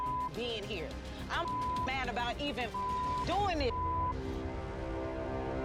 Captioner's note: beep; dramatic music